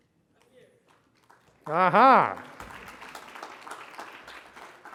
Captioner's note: congregation clapping